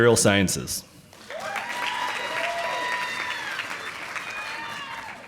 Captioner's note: audience applauding